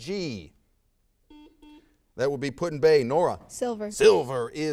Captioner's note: buzzer sounds